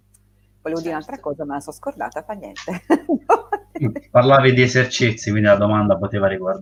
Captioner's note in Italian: risate